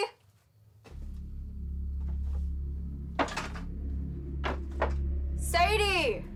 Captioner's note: ominous music; debris clatters